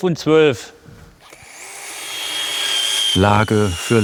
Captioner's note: machine sounds